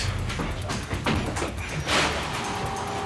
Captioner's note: clattering